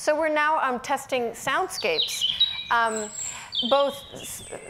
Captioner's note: birds chirping